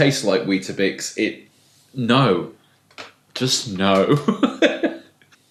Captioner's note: laughing